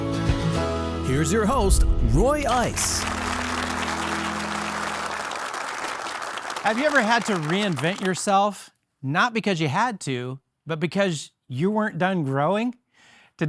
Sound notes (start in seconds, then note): 2.4 audience applauding